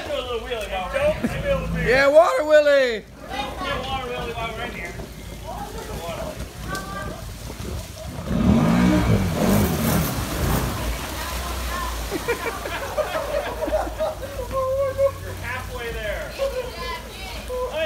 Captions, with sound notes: hey water wheeley.... Water Wheeley right here.... (Engine Revs..) (Laughters on the background) you're halfway there...